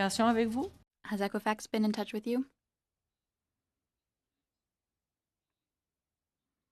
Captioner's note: speaking in French